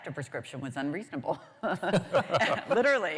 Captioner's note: laughter